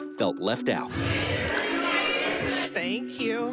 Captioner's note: crowd shouting